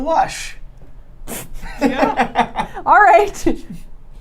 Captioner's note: laughing